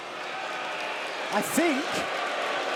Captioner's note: crowd boos